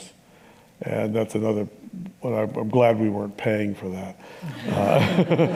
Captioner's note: laughter